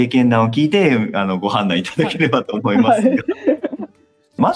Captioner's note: laughs